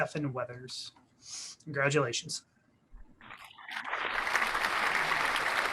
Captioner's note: clappiong